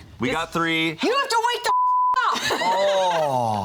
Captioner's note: beep; laughs